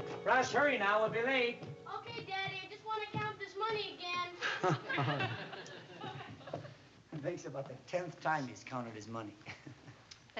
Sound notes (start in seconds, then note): 4.4 laughs